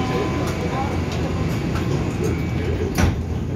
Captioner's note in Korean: 출입문 닫힘